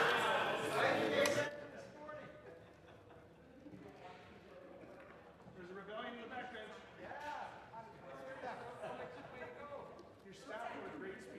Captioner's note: some Applause